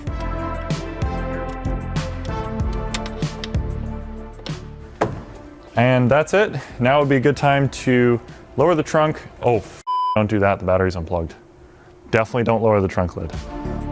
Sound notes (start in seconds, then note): 0.0 upbeat music; 9.8 beep